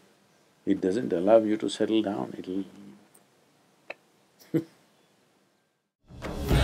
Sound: laughs

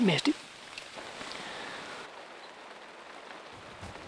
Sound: rain pattering

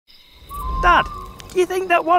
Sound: cricket chirps

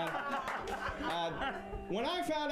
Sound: laughter

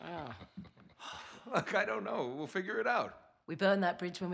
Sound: laughing

